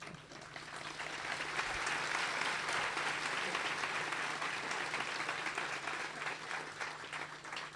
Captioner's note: clapping